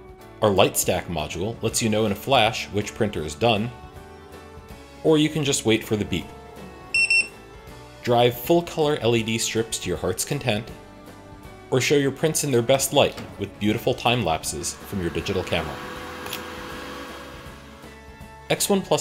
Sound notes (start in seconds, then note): 6.9 beep beep!; 16.3 click!